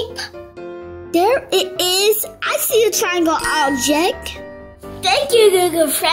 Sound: offscreen voice

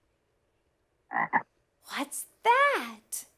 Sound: croaking

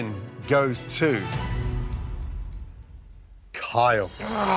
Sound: sighs

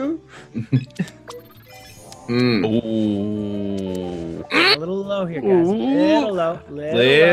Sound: laugh

